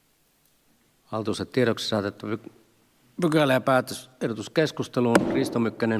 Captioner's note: Nuijan kopautus